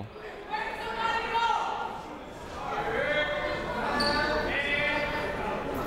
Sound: people shouting in the crowd

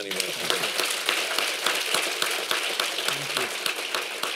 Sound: applause

